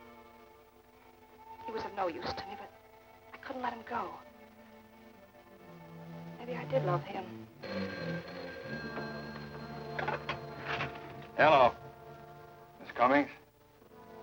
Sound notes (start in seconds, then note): 6.0 phone ringing